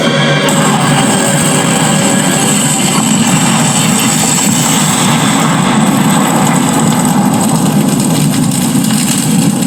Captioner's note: loud explosion